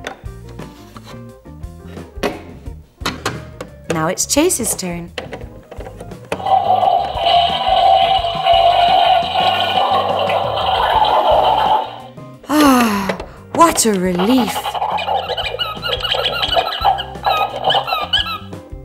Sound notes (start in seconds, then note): 6.4 the sound of flushing the toilet can be heard; 14.0 the sound of brushing teeth can be heard coming from the bathroom